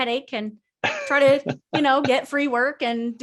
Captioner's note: laughs